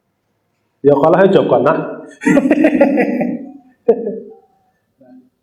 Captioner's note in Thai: เสียงหัวเราะ